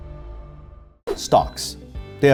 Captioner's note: register ding